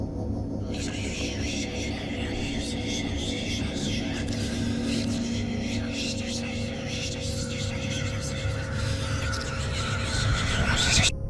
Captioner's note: whispering and crow noises getting louder and louder; faint music